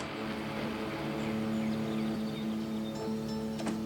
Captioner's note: birds chirping; dramatic music